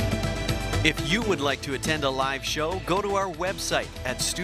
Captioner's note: voiceover